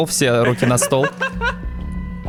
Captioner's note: laughter